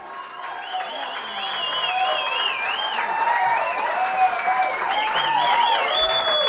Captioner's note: audience cheers and applauds